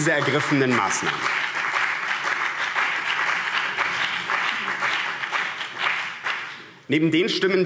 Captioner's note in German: Beifall BÜNDNIS 90/DIE GRÜNEN und vereinzelt CDU